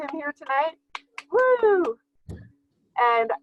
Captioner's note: clapping